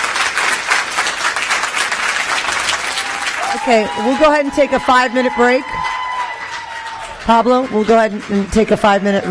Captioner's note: applause